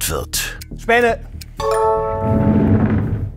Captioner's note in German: Klingeln